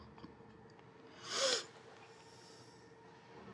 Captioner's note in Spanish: Respira profundamente